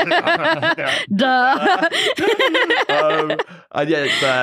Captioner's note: both laugh; laughing